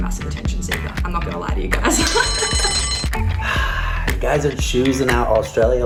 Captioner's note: bell rings